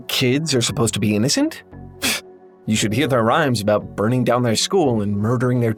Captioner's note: scoff